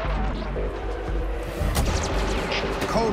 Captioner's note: suspenseful music; gunfire